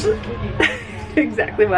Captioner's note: laughs